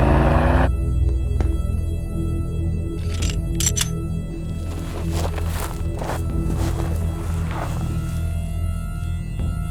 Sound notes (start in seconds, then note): 0.0 engine revving; 0.3 suspenseful music; 3.0 magazine clacking